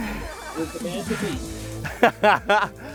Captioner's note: lady laughing; laughing